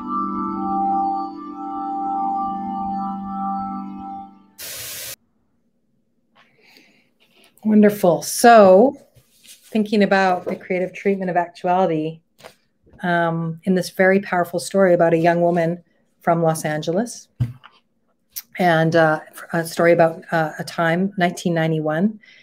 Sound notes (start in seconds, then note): 0.0 melancholy music continues; 4.6 TV glitching